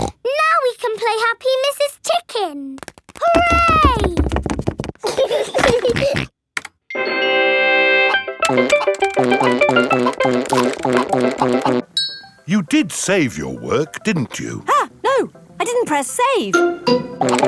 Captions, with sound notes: (SNORTS) Now we can play Happy Mrs. Chicken! Hooray! (GEORGE GIGGLES AND SNORTS) (VIDEO GAME MUSIC PLAYS) You did save your work, didn't you? Ah! No! I didn't press save!